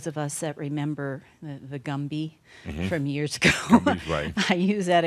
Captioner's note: she chuckles